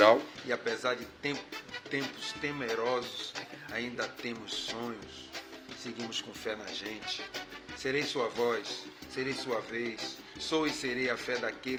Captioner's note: speaking portuguese